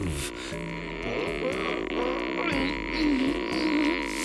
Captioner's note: groaning